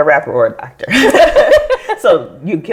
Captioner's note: all laugh